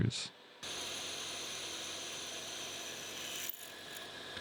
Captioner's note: lathe chattering